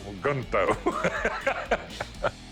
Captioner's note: chuckling